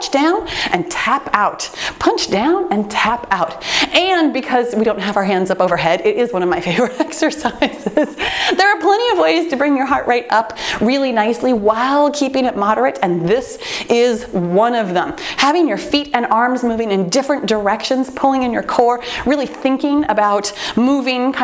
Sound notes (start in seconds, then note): 6.6 laughs